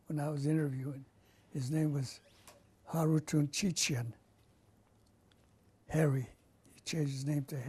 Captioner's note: non-english